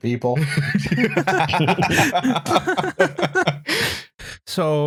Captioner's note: laughter